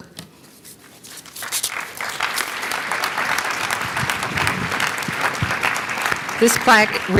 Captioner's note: applause